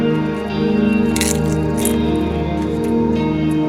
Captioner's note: chip crunching